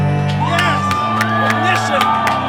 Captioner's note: crowd cheering